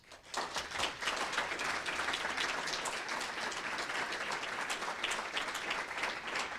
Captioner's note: applause